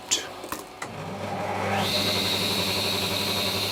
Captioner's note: whirring of the saw